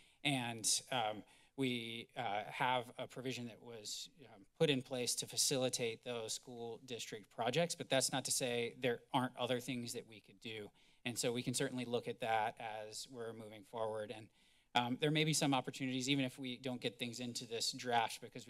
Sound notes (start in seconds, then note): none